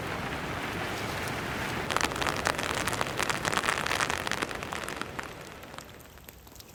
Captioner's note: sound of heavy rain